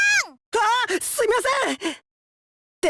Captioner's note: gasp